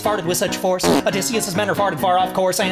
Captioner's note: farting sound